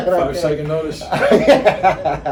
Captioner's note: laughing